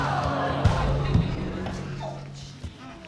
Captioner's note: audience exclaiming